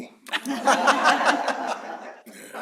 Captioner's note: laughter